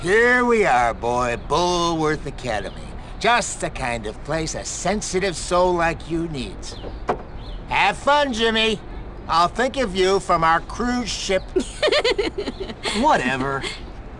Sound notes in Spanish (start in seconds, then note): 11.5 Risas